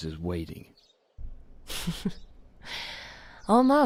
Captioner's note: soft chuckle